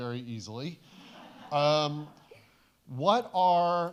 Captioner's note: audience chuckles